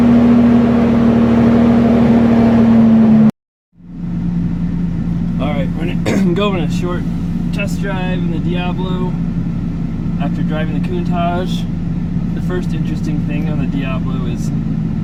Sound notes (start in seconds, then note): 8.9 engine noise